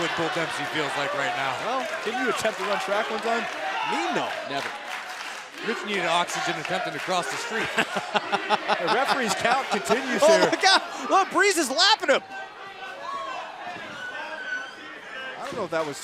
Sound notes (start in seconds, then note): 10.0 laughter